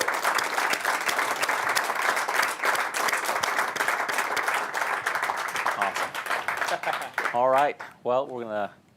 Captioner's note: applause